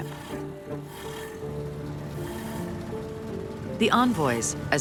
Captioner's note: engine running